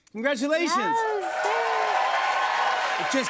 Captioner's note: cheers and applause